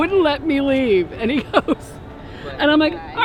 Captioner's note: laughs